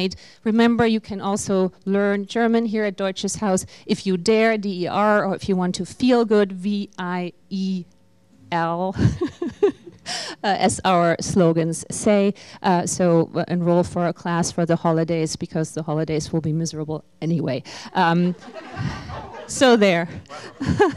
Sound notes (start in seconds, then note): 18.3 laughter